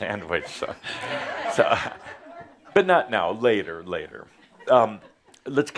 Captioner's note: Adamus chuckles